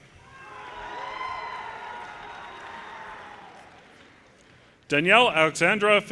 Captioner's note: audience cheers and applause